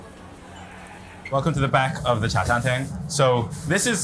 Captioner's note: people chattering; food sizzling; speaks in foreign language